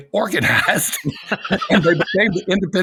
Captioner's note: both laughing